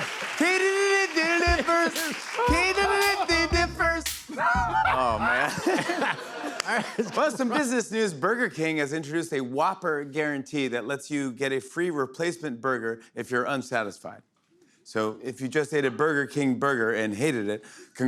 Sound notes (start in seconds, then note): 4.3 laughter